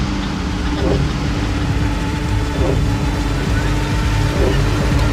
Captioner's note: MAN and WOMAN cackle, barely audible under the escalating music